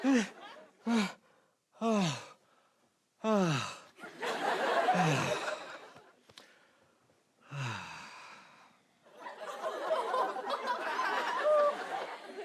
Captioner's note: sighs